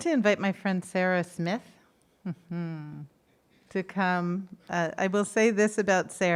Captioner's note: hums